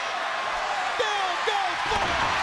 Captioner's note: crowd cheering